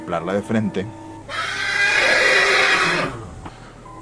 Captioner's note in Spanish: Relinchido de caballo